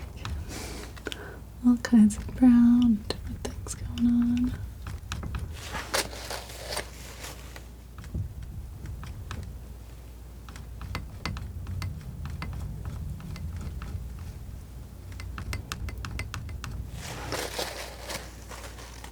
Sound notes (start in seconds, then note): 4.3 tapping on table